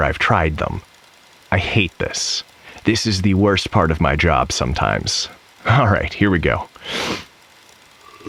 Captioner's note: sipping